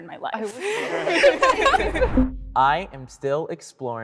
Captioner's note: all laughing